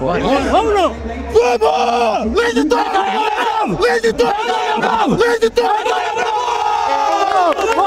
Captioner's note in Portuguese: grito de aquecimento